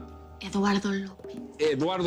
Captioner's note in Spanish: Susurra